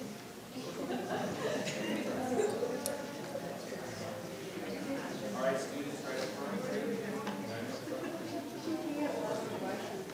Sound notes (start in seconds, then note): 7.3 group murmurs